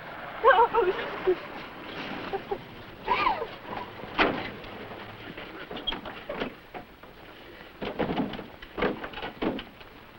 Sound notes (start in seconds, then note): 3.0 sobbing; 5.4 car Doors